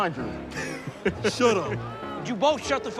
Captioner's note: chuckling